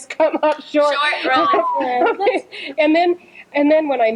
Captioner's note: laughter